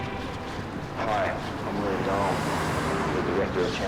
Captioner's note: car radio cue music; William On Speaker